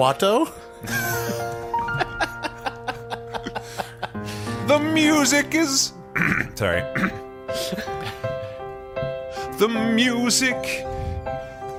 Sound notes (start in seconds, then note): 5.3 laughs; 8.5 piano plays; 9.3 singing